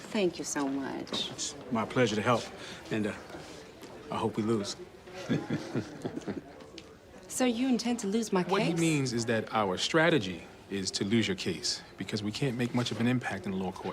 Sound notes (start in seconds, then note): 5.2 both chuckle